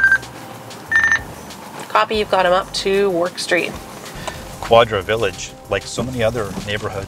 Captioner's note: radio noise